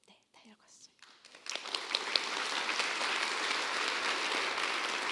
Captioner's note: applause